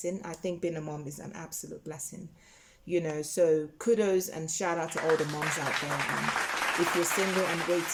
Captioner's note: clapping